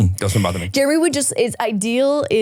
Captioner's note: laughing